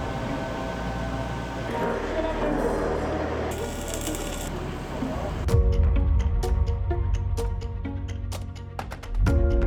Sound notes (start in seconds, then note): 0.0 tense music continues; 3.8 electricity fizzing; 4.9 reflective music